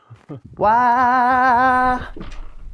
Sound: vocalizes

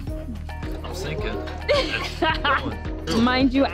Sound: laughs

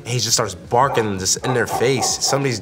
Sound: dog barking

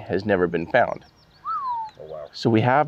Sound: whistles

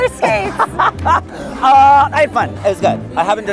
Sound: laughs

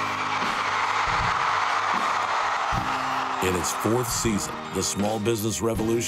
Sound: crowd cheering wildly

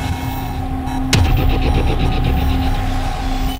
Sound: music blasts; alarm beeps

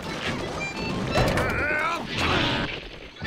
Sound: grunting

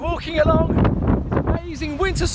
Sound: wind blowing

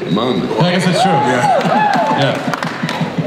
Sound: audience cheers

